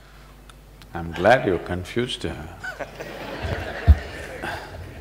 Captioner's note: laughter